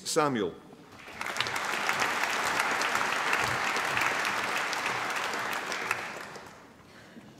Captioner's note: applause